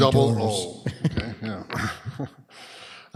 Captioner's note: laughs